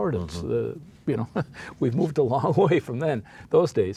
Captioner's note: chuckles